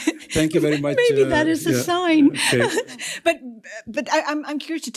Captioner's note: chuckles